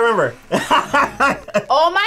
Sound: laughing

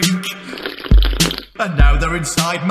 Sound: slurp

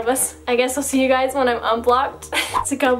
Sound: laughs

